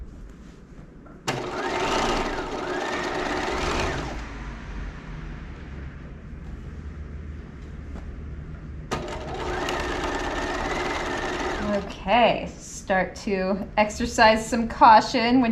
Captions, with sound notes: (sewing machine whirling) (sewing machine whirling) Okay, start to exercise some caution